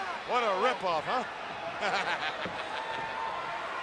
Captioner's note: laughs